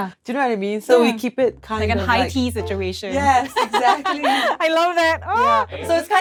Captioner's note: laughs